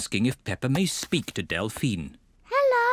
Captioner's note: whispering